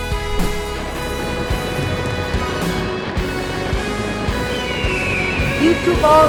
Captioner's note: 🎼 Patriotic Music🎵; 👏 Cheers😮; 💥🧨 Fireworks 💥